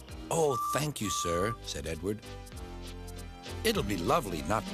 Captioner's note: toots